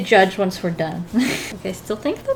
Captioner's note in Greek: Γέλια